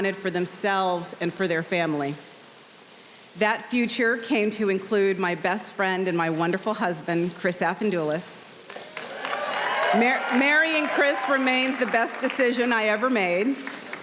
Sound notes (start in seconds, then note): 8.6 audience applauding